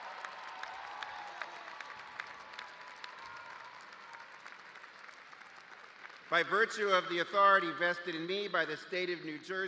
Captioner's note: cheers and applause